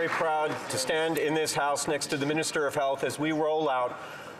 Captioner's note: some Applause